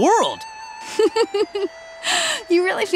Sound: laughing

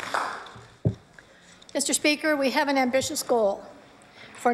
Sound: applause

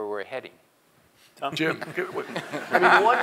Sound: laugh

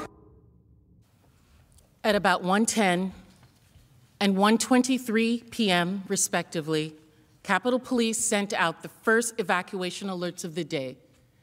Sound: yelling

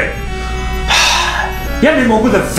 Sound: sigh

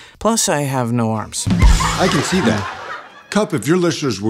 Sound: audience laughing

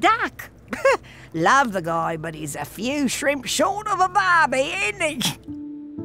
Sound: laughs

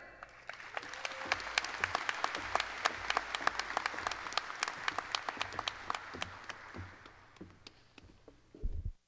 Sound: applause

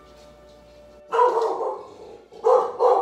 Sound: dog bark

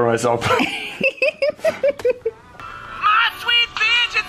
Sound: laughing

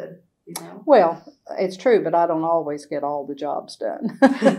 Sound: laughs

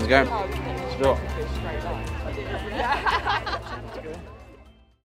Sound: people chatter

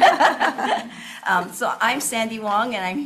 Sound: everyone laughs

